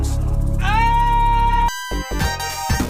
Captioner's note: screams